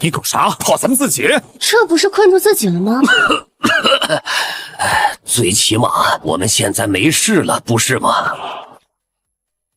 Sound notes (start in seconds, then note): 3.0 cough cough